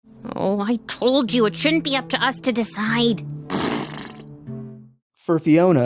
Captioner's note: Cake: Pffffft